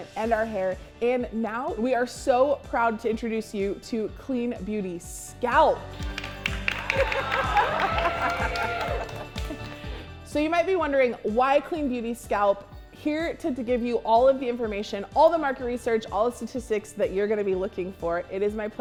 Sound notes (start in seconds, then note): 5.9 laughter and applause